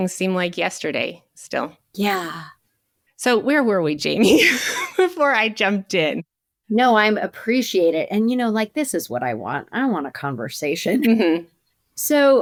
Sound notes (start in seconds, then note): 4.2 chuckles